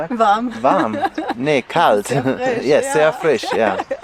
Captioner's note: laughter